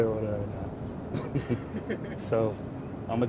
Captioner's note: chuckles